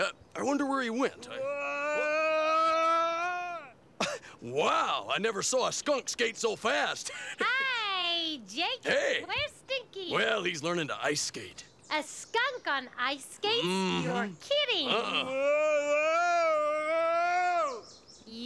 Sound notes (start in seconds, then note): 1.7 Stinky yelling; 4.1 chuckles; 15.7 Stinky yelling